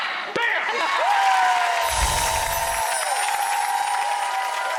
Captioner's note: crowd cheering